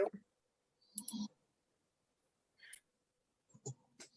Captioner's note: mouse clicks